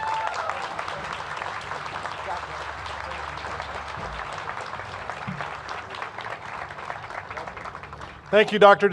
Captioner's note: cheers and applause